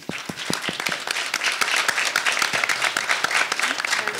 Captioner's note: audience applauding